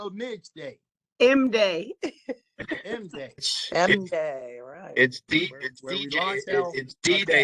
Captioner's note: laughter